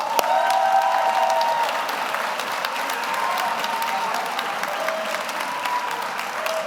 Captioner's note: audience applauds; audience cheers